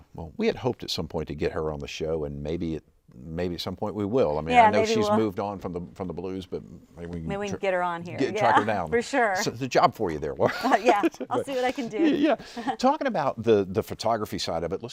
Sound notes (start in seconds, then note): 10.4 laughs